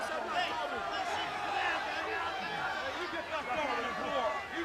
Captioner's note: crowd chatter